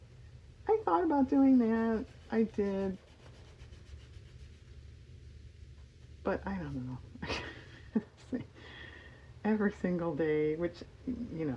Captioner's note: laughs